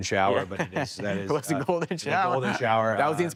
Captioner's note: chuckles; laughs